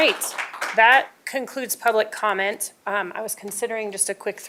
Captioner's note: applause